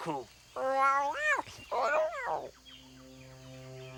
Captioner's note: Tasha babbles